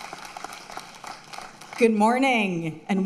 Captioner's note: applause